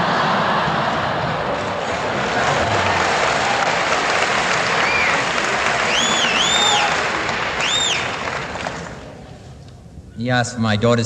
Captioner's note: laughter